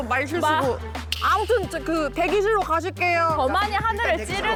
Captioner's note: editing cue sound